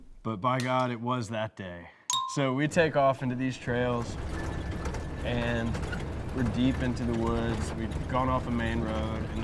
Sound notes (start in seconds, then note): 0.0 golf cart clunks; 2.1 bell chimes; 3.2 go kart clunking